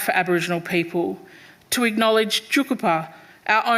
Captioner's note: speaking foreign language